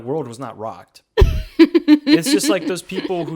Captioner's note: laughs